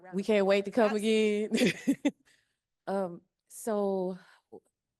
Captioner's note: laughing